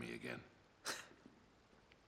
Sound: laugh

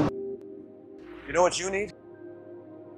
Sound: voiceover

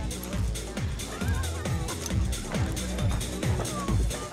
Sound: indistinct chatter

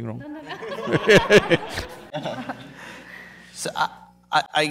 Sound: laughter

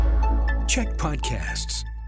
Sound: announcer voice

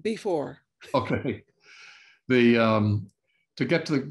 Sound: laughs

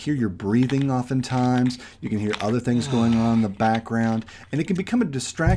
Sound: sigh

